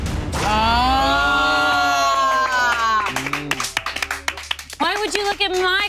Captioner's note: group applauding